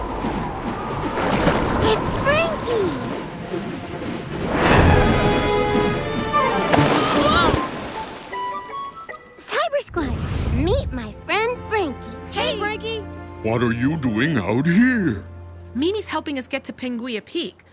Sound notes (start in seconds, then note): 2.5 tense music; 6.3 water splashing